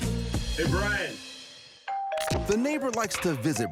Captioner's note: doorbell ringing